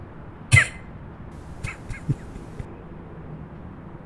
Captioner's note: laughs